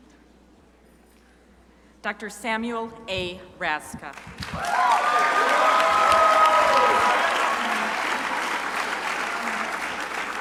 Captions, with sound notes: Dr. Samuel A. Raszka (crowd applauding)